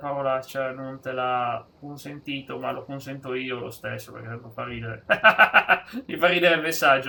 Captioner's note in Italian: risate